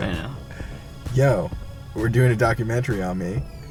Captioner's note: voiceover